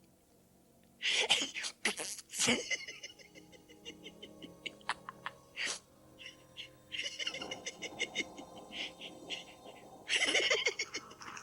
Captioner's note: Gatekeeper blows a raspberry, and keeps chortling